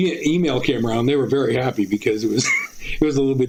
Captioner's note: laughing